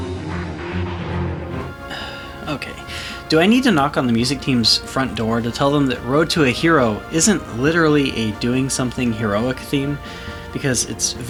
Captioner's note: sigh